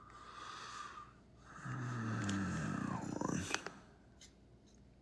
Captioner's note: Suspirando